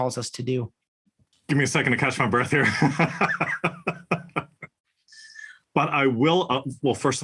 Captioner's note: laugh